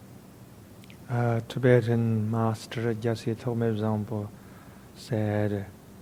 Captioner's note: speaking in foreign language